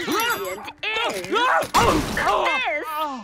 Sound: cat screeching; thudding; cat screeching

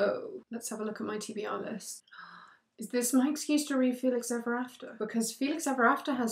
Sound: gasp

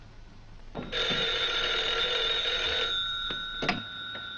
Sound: telephone rings

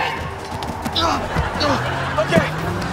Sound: groaning

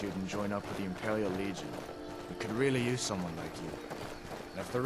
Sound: none

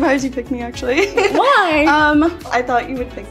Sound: giggling

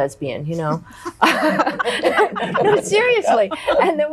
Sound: women laughing

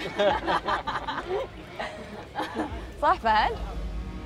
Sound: laughs

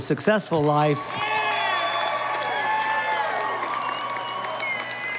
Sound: audience applauding

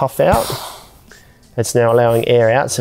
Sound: air releasing sound

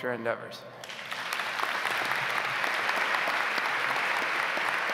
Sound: audience applauds

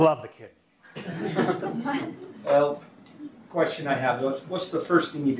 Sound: laugh

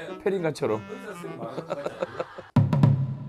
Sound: haha

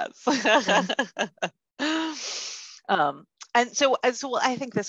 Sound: laughing

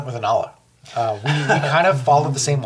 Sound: all laughs

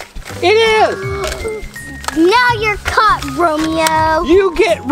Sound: gasps

